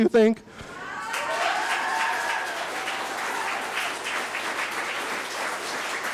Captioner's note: audience applauding; cheering